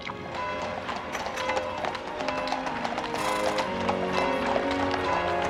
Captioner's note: bell ringing